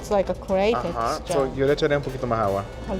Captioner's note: speaking Spanish